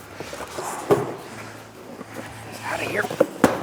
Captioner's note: grunting